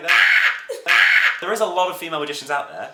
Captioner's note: screams